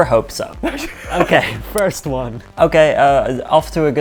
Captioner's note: laughing